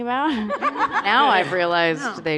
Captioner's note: laughter